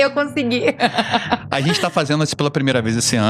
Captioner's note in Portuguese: risadas